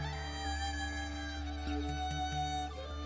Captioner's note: none